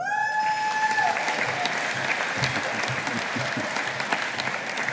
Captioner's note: audience applauding